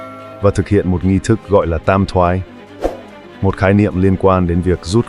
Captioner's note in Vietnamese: chuông